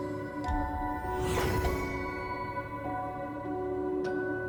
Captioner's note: air whooshing